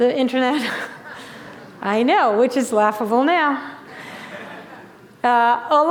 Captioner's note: laughter